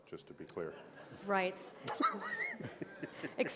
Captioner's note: laughter